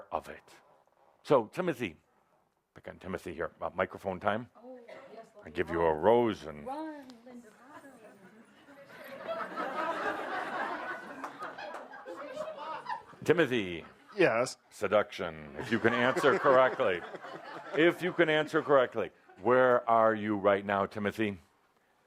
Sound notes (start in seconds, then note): 8.9 laughter; 15.6 laughter as waves a chocolate